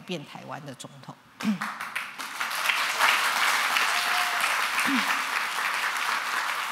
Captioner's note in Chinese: 掌聲